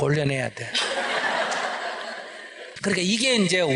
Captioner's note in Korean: 질문자 / 청중 웃음